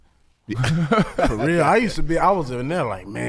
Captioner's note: laughing